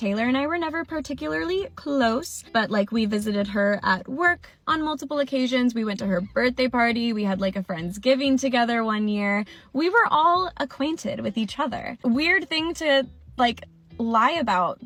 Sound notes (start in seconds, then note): none